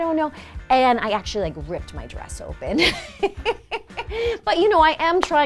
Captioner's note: laughs